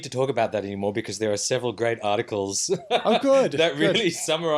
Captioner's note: laughs